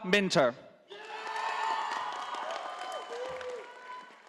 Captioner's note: audience applauding